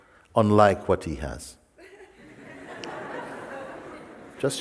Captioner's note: Lachen